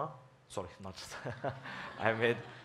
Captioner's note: laughs